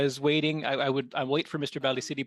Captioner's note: speaking French